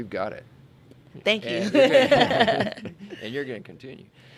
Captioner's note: laughing in unison